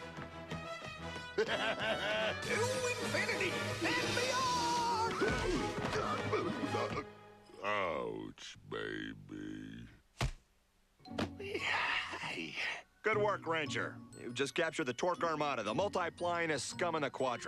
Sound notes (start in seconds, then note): 11.9 groans